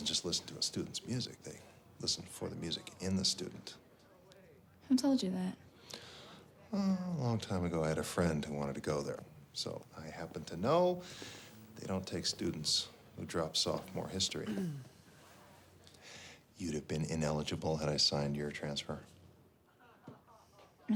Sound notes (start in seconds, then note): 14.4 Spencer clears throat